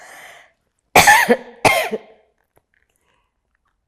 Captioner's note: coughing